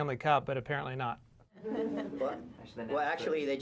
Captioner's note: laughter